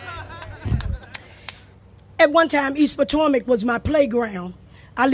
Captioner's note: laughter